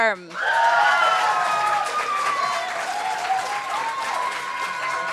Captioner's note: applause